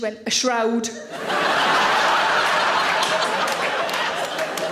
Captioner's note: audience laughing